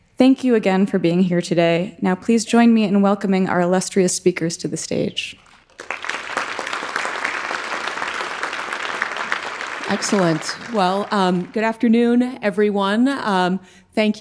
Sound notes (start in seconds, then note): 5.6 audience applauding